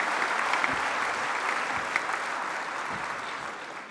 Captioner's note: applause